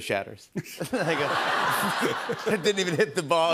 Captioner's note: laughter